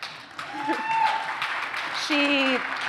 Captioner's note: appluase